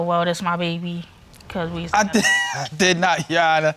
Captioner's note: laughs